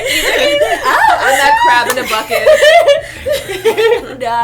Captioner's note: laughter